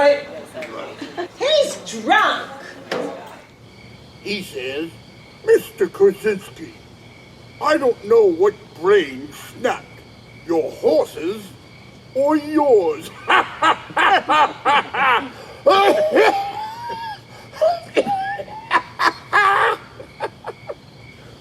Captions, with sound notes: I'm all right. - He's drunk! - He says, "Mr. Crazinski, I don't know what brain snapped, your horse's or yours." (men laughing) (Jake coughing)